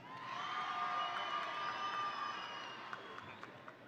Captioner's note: audience cheering